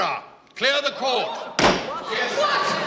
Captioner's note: crowd gasps